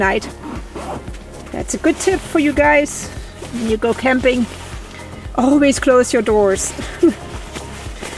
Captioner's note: laughs